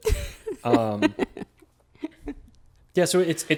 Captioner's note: laughing